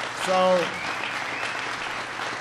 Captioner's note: applause